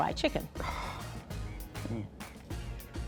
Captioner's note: sighs